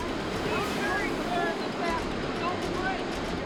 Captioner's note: rescuers shouting